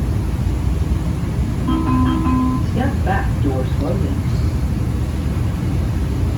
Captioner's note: chime